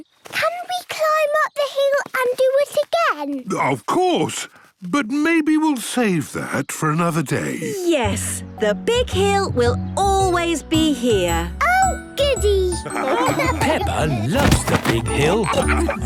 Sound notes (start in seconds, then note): 12.8 laughing